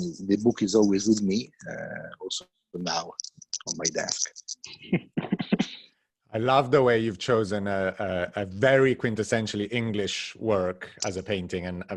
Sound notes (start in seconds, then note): 4.9 laughs